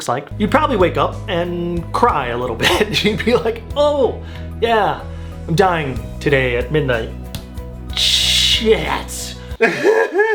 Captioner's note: cries